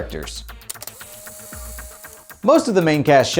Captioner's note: tape whirring